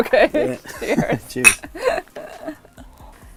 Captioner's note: laughs; glasses clink; laughs